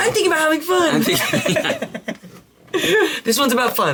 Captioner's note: chuckles